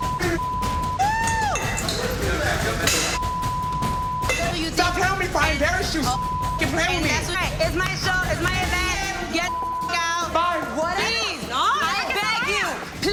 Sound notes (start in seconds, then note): 5.9 beep; 9.4 beep